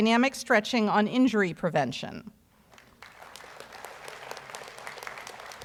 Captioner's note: audience applauds